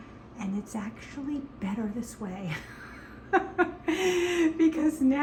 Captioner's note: laughs